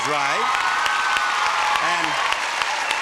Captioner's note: audience applauding